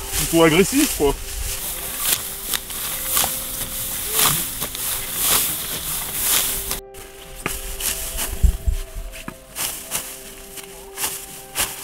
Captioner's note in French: bruit du blé qu'on écrase